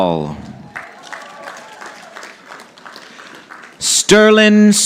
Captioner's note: audience applauding